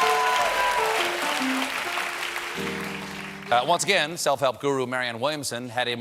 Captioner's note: applause; piano riff